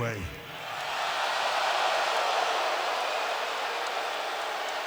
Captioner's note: audience laughs